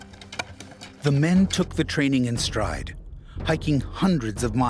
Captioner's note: voiceover